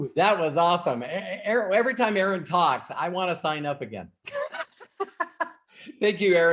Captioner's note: laughs